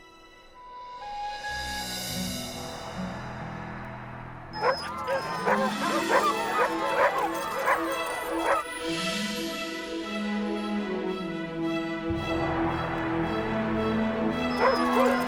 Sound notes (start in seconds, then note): 4.5 dogs barking; 5.9 vibrant music